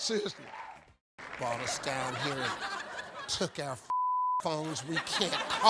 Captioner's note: beep